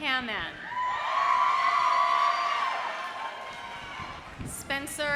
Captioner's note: audience cheering